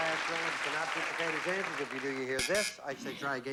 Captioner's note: buzz buzz